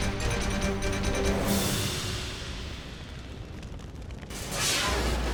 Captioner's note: dramatic beat; muffled flames whipping; transition whooshes